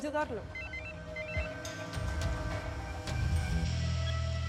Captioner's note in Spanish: suena el celular